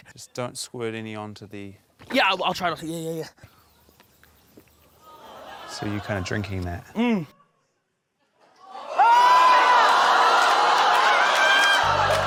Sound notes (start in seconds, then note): 5.0 audience groans; 8.6 audience exclaims